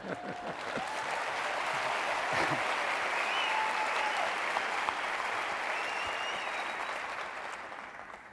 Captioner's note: applause